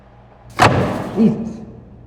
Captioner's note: thud